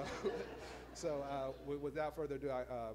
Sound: laughs

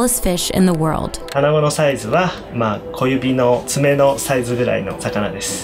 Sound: speaking in foreign language

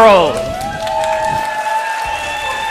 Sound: applause

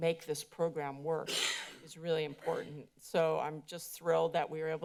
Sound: coughs

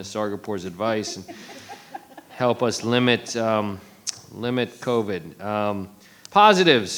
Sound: attendees giggling

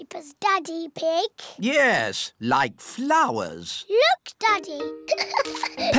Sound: giggles

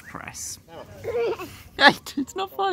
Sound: giggles

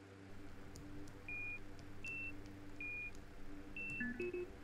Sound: container beeps

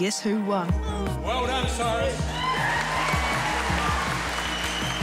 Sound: cheering, applause

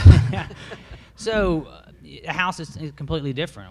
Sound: presenters laugh

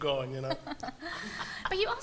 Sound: laughter

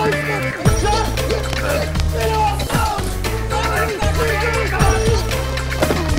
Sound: screaming and shouting

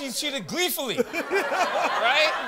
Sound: laughs

